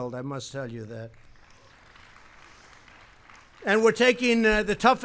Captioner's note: applause